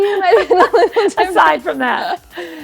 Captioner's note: laughter